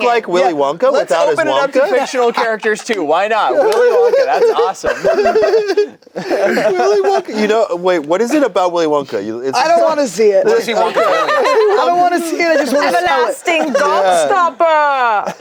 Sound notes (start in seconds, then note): 5.0 group laughs; 11.0 laughs